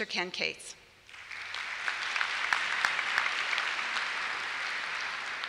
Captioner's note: applause